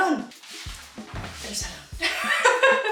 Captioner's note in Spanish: risas